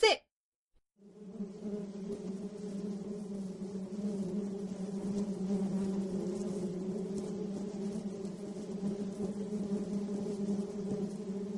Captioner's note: sounds of Bees Swarming from the Kitchen